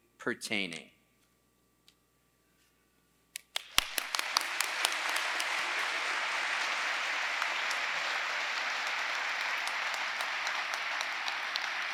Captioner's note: applause